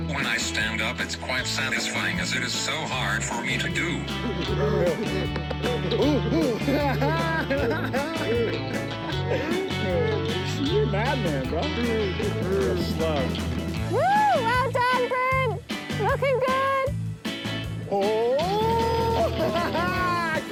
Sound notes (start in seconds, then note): 3.8 chuckles; 6.6 laughs; 12.0 upbeat music; 17.9 laughs